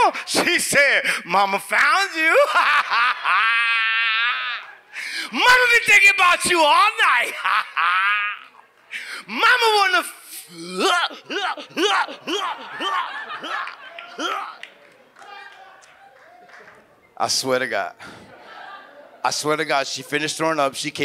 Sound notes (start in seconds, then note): 2.3 laughs; 7.0 laughs; 10.6 retches; 10.8 audience laughs